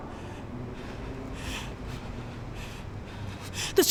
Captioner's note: Abby breathing heavily